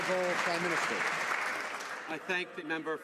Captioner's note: applause